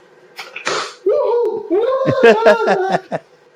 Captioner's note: cheers